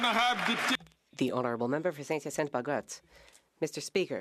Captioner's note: some Applause